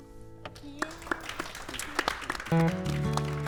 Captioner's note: applause